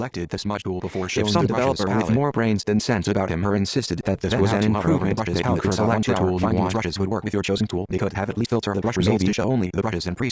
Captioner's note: computer voice reading the comment in increasingly fast and overlapping words